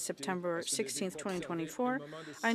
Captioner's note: speaking French